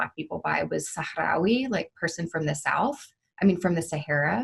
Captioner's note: speaking Arabic